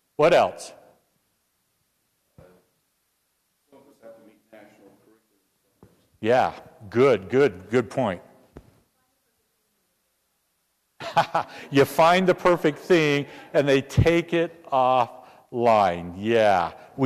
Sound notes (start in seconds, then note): 11.0 laugh